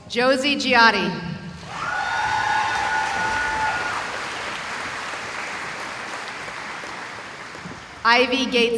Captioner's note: cheering